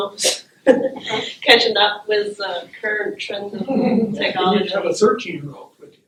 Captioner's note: laughter